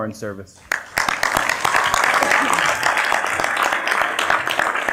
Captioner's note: applause